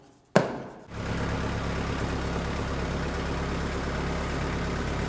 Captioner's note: engine purring